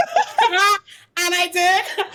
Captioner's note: laughing